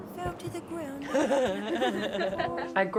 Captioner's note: chuckles